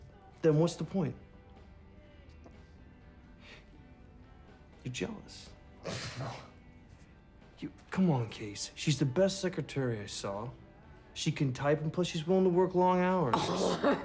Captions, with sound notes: THEN WHAT'S THE POINT? YOU'RE JEALOUS? [SCOFFS BITTERLY] YOU-- COME ON, CASE. SHE'S THE BEST SECRETARY I SAW. SHE CAN TYPE, AND PLUS, SHE'S WILLING TO WORK LONG HOURS.